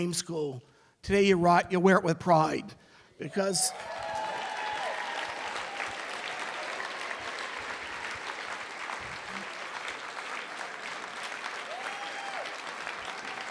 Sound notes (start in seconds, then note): 3.6 applause